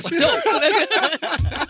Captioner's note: laughter